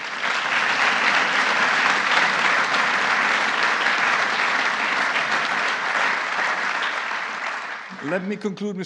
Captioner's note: applause